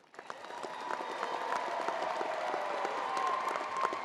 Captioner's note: crowd applauding